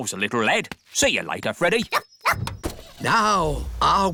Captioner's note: barks; car engine starts